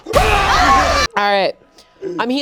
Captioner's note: yelling